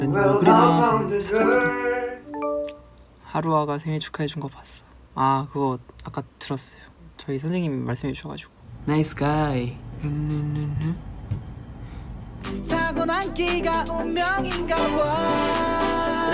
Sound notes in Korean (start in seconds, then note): 10.0 흥얼거리는 소리